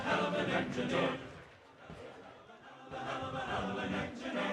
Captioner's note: applause